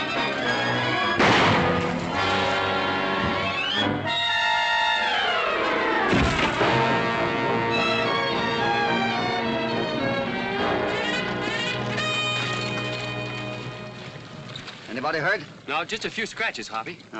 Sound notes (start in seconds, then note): 1.2 gunshot; 4.4 ominous music